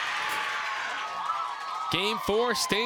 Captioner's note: crowd cheers and applauds